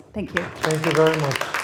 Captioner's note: applause